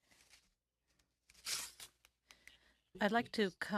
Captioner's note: speaking french